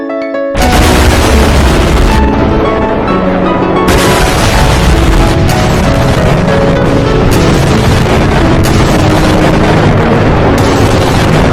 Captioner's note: massive explosion destroys the house